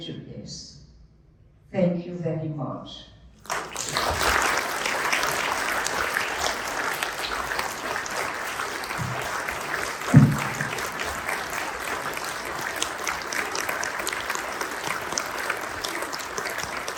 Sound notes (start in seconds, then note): 3.4 applause and standing ovation